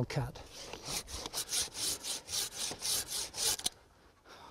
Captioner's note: sawing